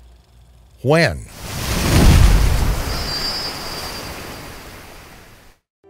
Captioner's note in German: Wellenrauschen